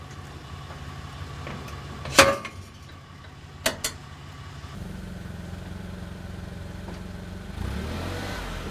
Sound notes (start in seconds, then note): 5.3 motor humming